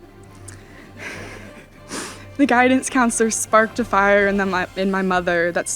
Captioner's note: audience laughing